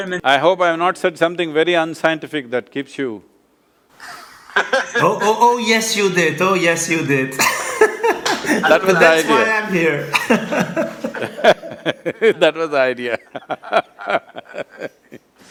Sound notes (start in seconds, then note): 4.0 laughs; 7.4 laughs; 10.0 laughter; 13.1 laughs